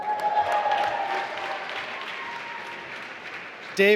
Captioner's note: applause